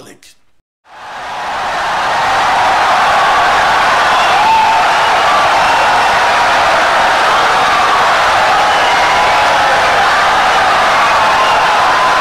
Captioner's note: wild applause and cheering for 17 seconds